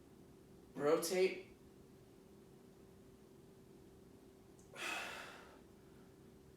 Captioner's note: exhaling